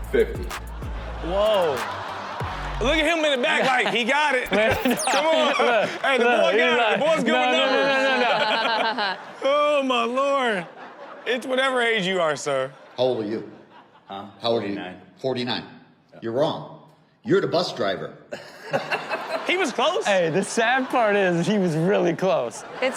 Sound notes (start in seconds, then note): 0.0 laughs; 0.5 audience laughs; 7.9 laughs; 18.4 audience laughs